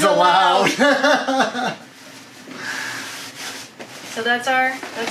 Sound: laughs

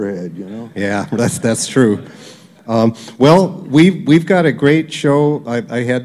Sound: laughter

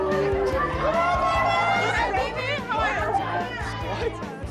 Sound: people shouting; upbeat music

